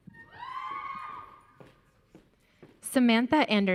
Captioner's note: audience cheering